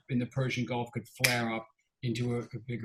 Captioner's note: snaps fingers